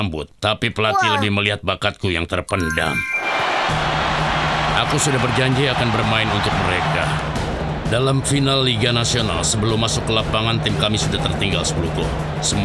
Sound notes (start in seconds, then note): 3.1 crowd cheers